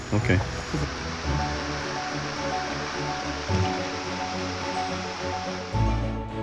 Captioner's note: water rushing; dramatic instrumental music; uplifting instrumental music